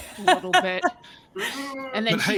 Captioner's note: laughs out loud